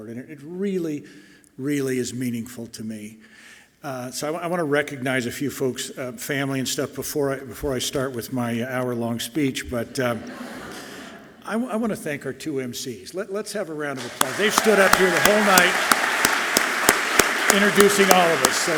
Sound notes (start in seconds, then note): 16.0 all clapping loudly